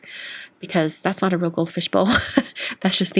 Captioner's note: laughs